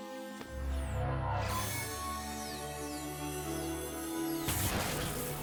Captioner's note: buzz; explosion